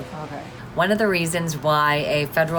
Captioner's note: woman's Voice